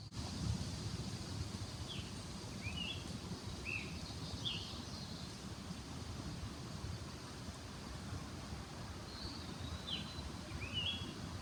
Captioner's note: leaves rustling and Scarlet tanager singing